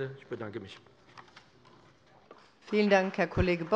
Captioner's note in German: Beifall bei dem BÜNDNIS 90/DIE GRÜNEN und der CDU